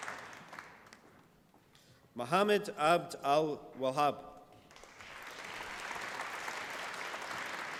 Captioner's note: applause